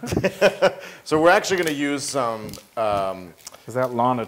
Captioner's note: laugh